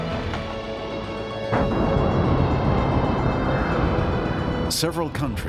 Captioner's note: huge explosion